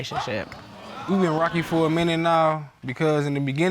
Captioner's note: audience exclaiming